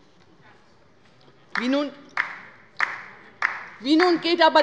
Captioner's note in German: Beifall bei der LINKEN